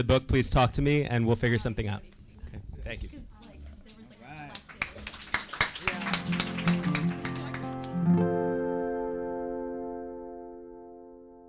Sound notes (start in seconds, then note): 3.9 audience applauding; 5.9 gentle music